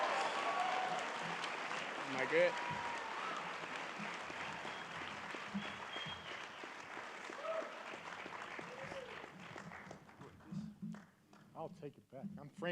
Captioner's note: cheering and applause